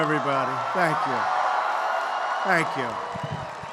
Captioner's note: applause